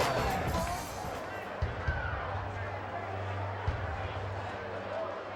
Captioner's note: crowd chatter